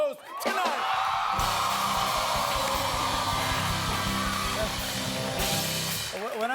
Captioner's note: cheers and applause